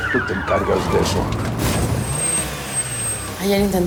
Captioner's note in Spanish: Ruido del vehículo